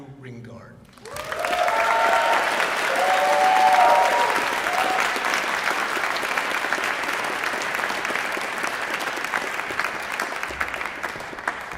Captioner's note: applause